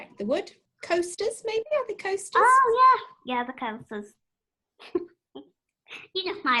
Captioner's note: laughter